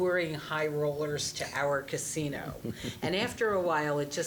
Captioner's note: scattered chuckling